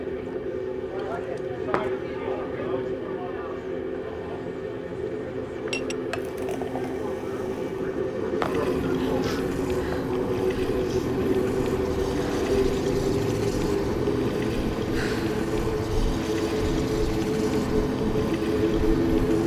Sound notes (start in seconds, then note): 14.7 exhales; 17.6 tense music continues